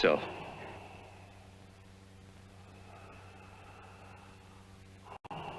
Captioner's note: deep breathing